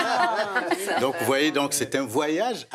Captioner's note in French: rires